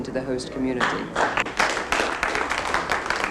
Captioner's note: applause